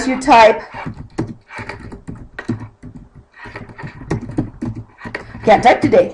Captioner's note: typing